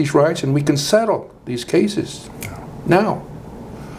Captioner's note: snaps